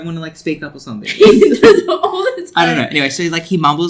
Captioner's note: laughs